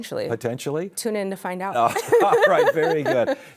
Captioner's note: laughs